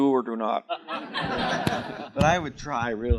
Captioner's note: chuckling